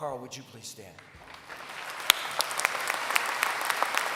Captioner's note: applause